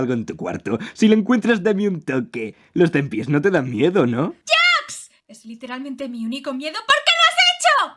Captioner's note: none